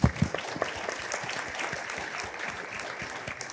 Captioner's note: applause